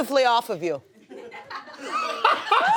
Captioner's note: laughter